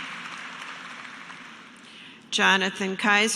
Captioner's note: applause